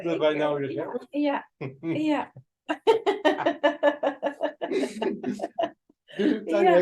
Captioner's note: laughing noises